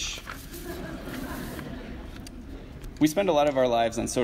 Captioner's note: audience laughs